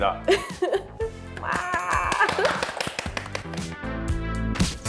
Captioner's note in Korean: 와아~ 짝짝짝짝